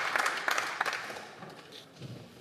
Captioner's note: applause